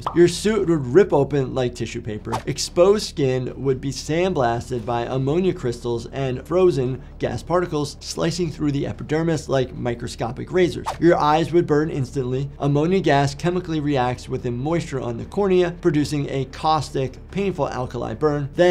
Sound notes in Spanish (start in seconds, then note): 2.3 transición silbante